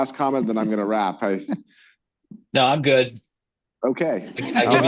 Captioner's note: laughter